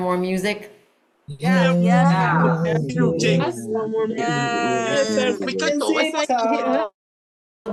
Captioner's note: cheering